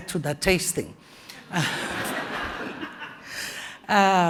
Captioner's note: laughter